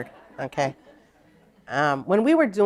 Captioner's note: laughter